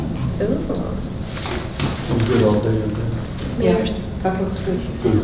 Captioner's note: rustling drowns out speakers